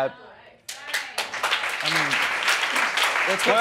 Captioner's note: applause